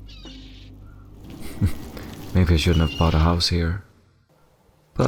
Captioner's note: chuckle